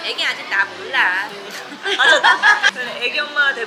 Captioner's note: laughing